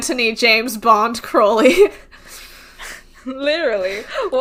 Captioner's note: laughs